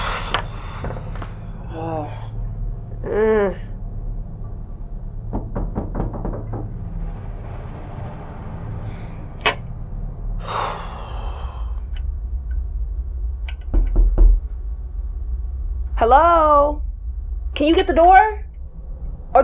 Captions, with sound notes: (girlfriend sighs) Oh. Mm. (visitor knocks) (tense music) (girlfriend sighs) (visitor knocks) Hello? Can you get the door?